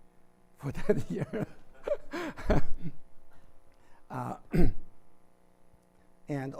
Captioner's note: laughs